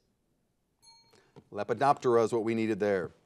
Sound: bell rings

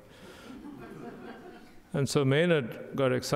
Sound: audience laughing

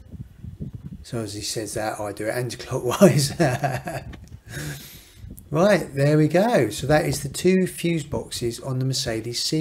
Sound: laughs

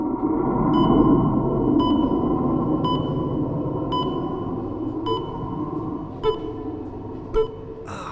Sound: heartbeat monitor

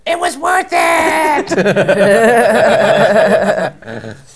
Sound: laughter

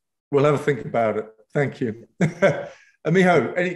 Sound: laughs

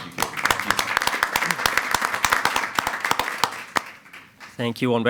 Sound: attendees applauding

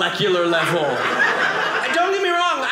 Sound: audience laughing

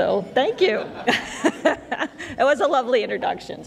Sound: laughter

